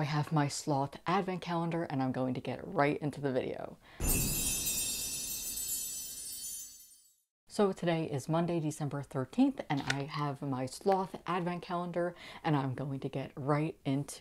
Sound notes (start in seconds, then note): 4.0 loud chimes